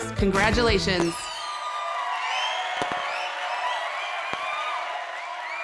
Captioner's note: audience cheering